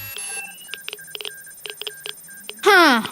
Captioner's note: tracker beeping